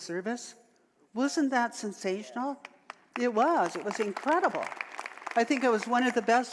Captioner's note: audience applause